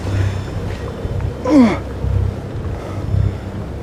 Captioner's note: groaning